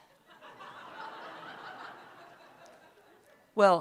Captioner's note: laughter